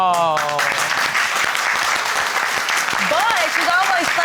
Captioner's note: audience applauding